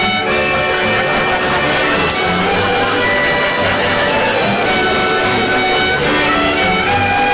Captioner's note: audience Laughing as Band Plays